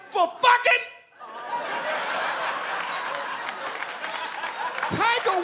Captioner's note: audience laughing